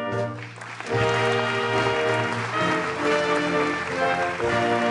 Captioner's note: audience applauds